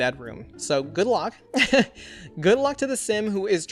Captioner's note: laughs